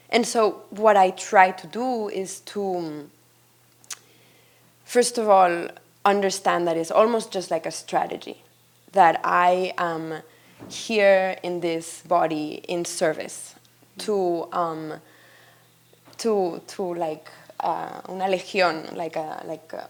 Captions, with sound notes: And so what I try to do is to first of all, understand that it's almost just like a strategy that I am here in this body in service to like (speaks in Spanish), hundreds of people.